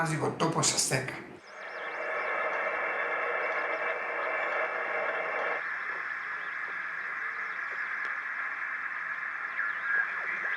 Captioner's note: radio interference